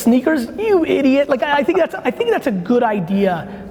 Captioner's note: laughing